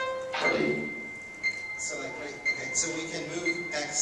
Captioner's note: dings get slower and sound further apart